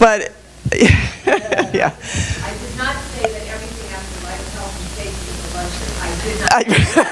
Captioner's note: laughs, chatter from audience; laughing - comment from audience